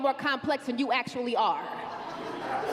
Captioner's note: laughter